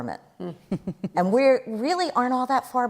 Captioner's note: chuckles